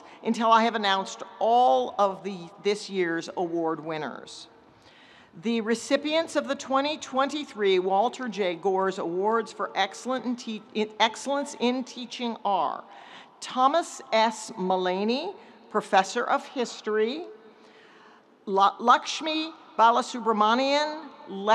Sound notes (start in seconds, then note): none